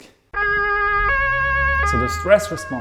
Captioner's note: ambulance sirens blaring